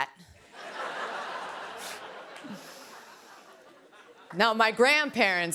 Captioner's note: laughter